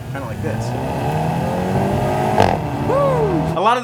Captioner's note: engine roaring